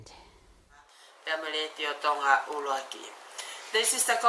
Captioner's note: speaking in Tongan